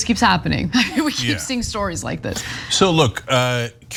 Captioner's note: laugh